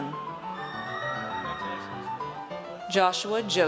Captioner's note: audience cheers